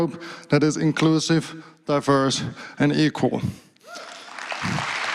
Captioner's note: applause